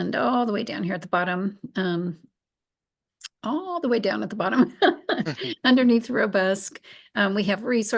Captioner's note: laughs